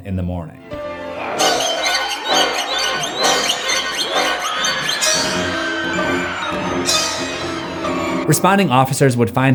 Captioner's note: screams